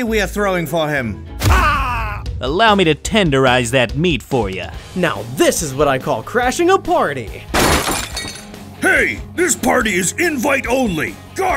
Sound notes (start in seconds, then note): 1.8 groans; 7.5 tableware crashes